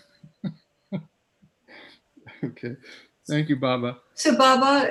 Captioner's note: chuckling; chuckling and giving a thumbs-up